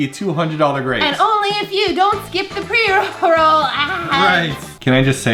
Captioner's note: withering laughter